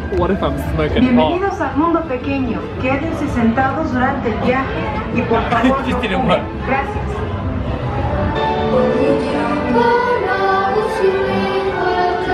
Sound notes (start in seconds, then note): 2.0 announcer speaking in Spanish; 8.6 singing in French